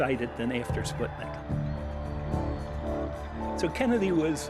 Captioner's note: crowd cheering